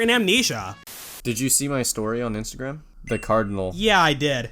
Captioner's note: static